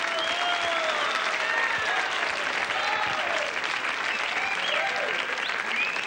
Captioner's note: applause and cheering